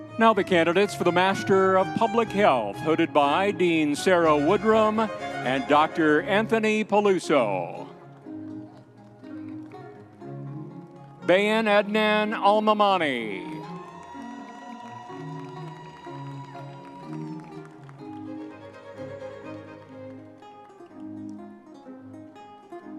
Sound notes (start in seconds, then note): 12.9 audience members cheering